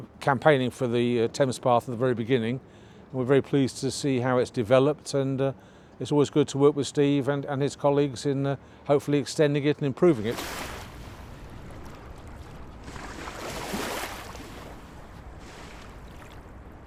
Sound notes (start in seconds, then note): 10.1 water crashing gently